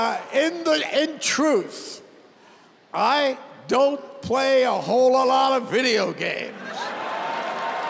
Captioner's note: laughter